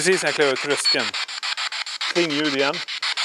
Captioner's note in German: Metallisches Geräusch